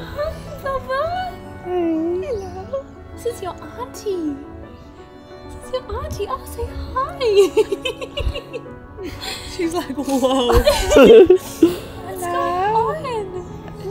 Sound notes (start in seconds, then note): 0.0 laughs; 7.2 laughs